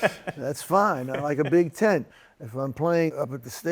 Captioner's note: laughter